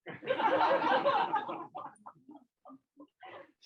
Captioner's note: laughter